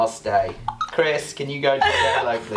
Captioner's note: laughing